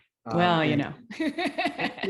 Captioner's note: laughing